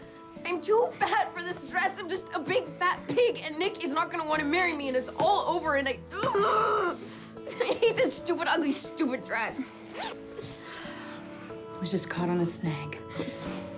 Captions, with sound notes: I'M TOO FAT FOR THIS DRESS! I'M JUST A BIG, FAT PIG, AND NICK IS NOT GONNA WANT TO MARRY ME, AND IT'S ALL OVER, AND I-- ARGH! I HATE THIS STUPID-UGLY STUPID DRESS! [GOWN ZIPS UP] IT WAS JUST CAUGHT ON A SNAG.